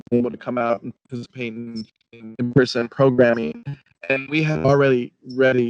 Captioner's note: speech distorting; speech distorting